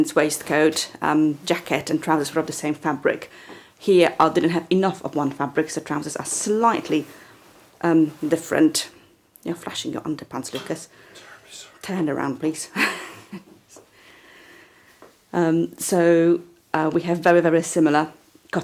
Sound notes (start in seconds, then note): 13.0 laughing